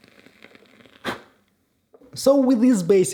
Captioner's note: host blowing candle out